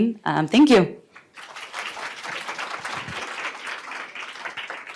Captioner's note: applause